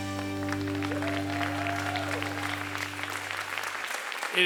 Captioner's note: applause